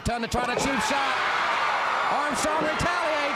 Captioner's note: crowd cheering